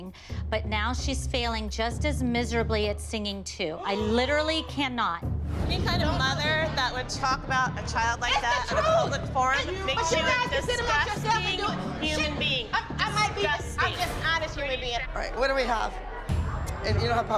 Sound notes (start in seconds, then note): 2.6 gasps